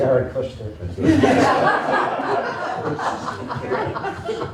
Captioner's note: laughter